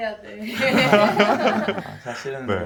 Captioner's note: laughing